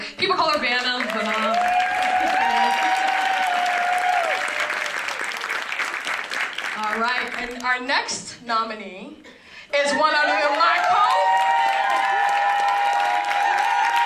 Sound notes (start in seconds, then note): 3.5 applause